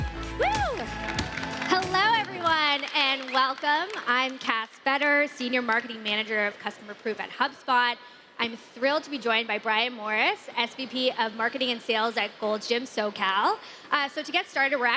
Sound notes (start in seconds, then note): 3.8 applause